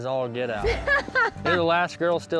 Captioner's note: laughing